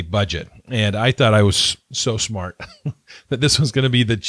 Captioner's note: laughs